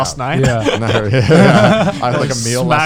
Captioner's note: laughing